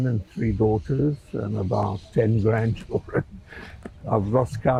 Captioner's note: laughing